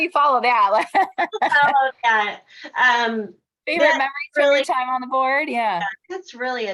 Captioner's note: laughter